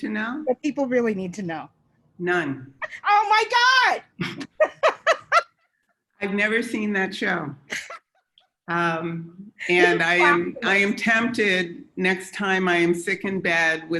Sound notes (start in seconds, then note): 2.9 yells; 4.2 both laugh; 8.9 laughs